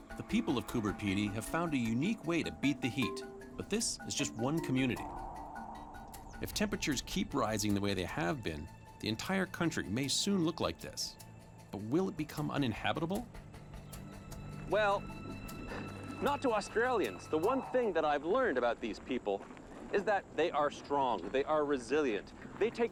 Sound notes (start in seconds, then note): 15.2 chuckles